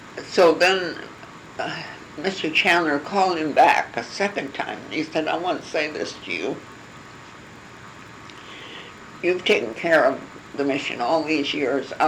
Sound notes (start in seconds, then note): none